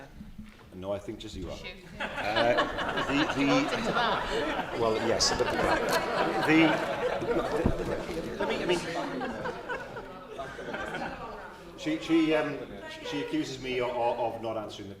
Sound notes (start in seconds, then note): 4.7 laughter